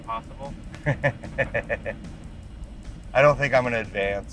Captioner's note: laughs